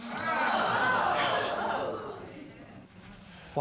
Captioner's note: audience exclaiming